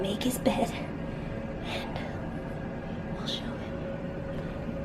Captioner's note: whispers